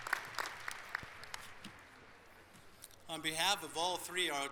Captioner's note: applause